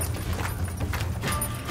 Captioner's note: clapping rhythmically